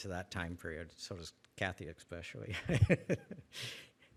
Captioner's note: laughs